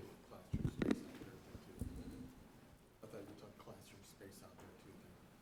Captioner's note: member talking faintly